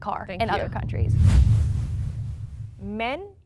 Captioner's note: whooshing sound